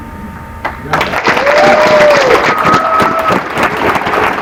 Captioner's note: applause